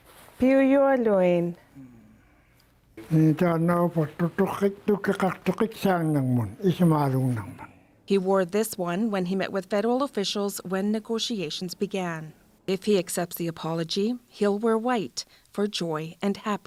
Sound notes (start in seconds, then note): 2.9 speaking indigenous language